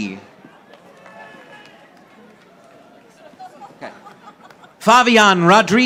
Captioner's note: audience applauding